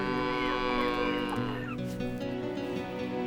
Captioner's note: cow mooing